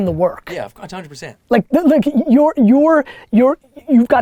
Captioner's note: Gary stammering